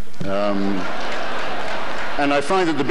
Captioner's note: laughter, light applause